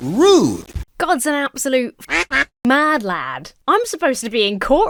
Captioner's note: duck quacks